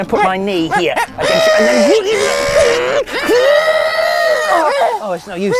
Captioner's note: both strain